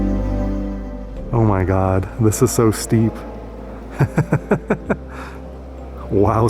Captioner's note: laughter